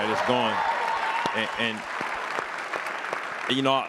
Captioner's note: applause